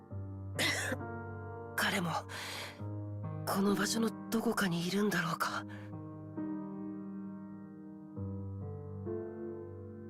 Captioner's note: cough